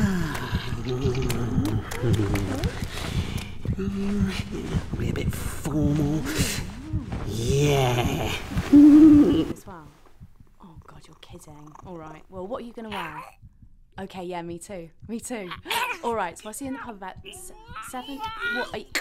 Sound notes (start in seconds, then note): 13.0 cat gags; 15.5 gags